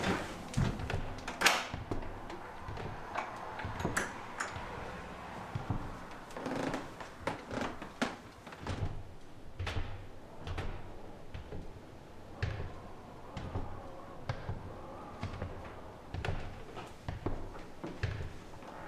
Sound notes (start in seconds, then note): 1.4 door clicks